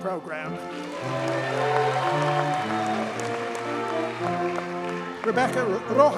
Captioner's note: audience cheers and applauds